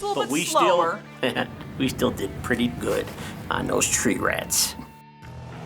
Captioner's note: chuckles